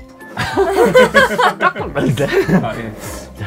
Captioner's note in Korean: 웃음